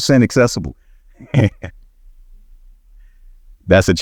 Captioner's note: he snickers